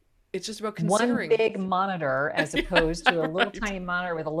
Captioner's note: laughing